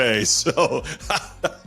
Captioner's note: laughter